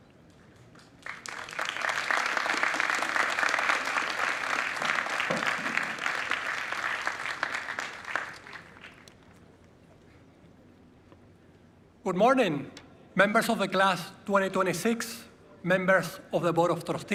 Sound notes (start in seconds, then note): 4.8 applause